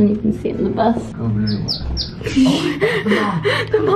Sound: bird chirps

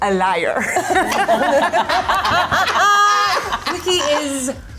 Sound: all laughing

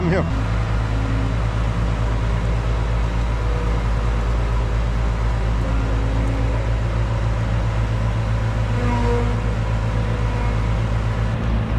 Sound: engine Sound

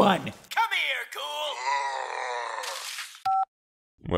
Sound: ghoul groaning, squelch

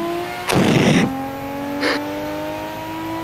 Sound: wheeze

